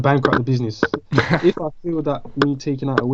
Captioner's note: laughs